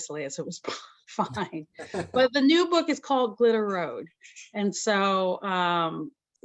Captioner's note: chuckles